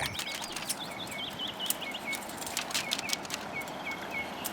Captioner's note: birds singing